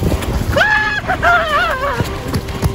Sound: scream

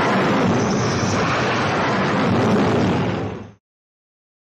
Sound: plane roars

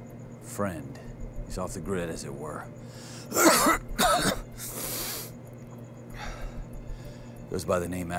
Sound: coughs

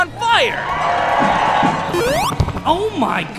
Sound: audience cheering

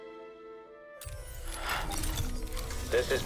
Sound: exhale

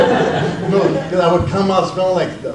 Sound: audience laughs

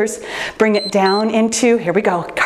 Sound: timer beeps

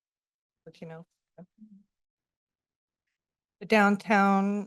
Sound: pause

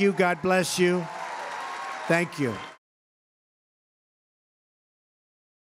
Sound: applause

